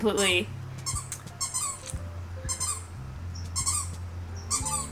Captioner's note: item squeaking